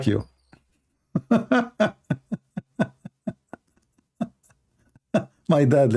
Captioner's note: Ketawa